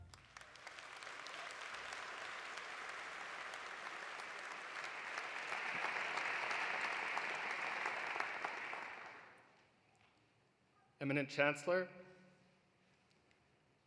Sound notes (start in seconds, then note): 0.0 poignant music continues; 0.0 singing in French continues; 0.3 audience applauding; 6.5 applause continues